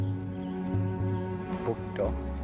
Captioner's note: both speaking in Mi'kmaw